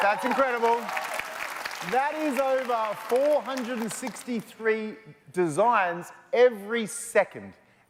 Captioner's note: applause